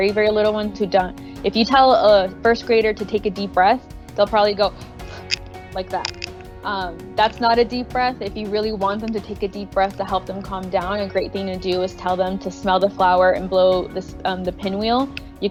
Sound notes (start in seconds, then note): 4.8 quick breaths